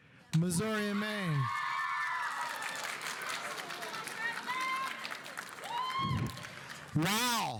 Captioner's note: audience cheering; audience applauding